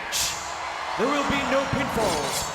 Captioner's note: audience cheering and clapping